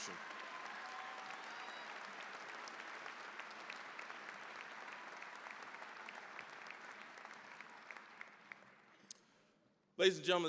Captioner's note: cheering, applause